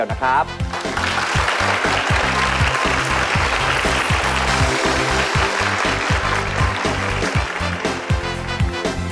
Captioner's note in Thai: เสียงปรบมือ